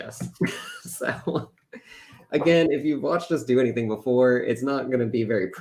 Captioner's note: laughs